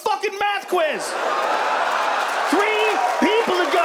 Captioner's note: audience laughs and cheers